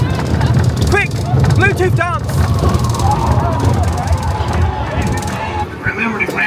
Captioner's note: coaster rattling